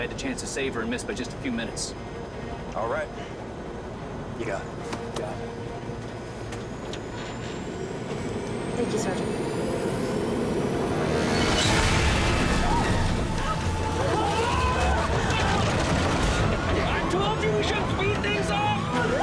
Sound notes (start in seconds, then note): 13.1 alarm blares